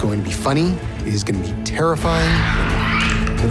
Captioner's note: infected screeches